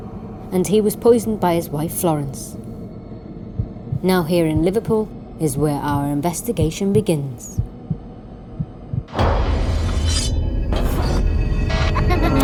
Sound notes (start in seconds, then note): 7.4 heart beating; 9.6 knife slicing